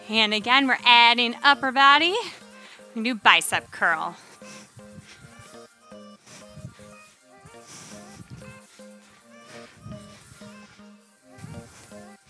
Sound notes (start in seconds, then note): 4.7 soft upbeat music; 5.9 breathes